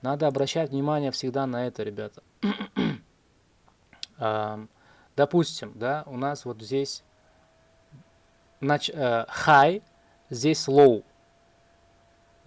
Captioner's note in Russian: откашливается; фыркает